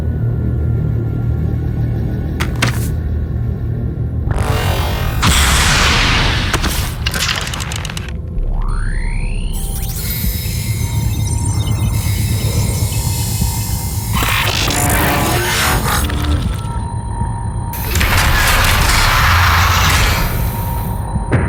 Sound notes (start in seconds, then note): 0.1 anxious electronic music; 4.9 electronic warbling; 9.9 tense electronic tones